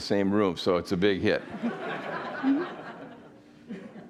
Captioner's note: audience laughing